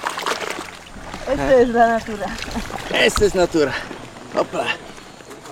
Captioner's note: in Spanish